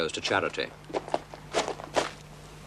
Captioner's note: footsteps